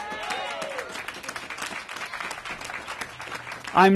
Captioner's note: applause